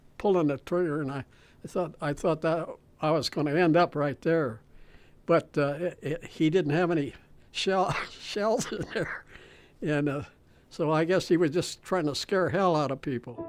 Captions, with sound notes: and he was pulling the trigger and I thought that I was gonna end up right there, but he didn't have any (chuckles) shells in there and so I guess he was just trying to scare hell out people.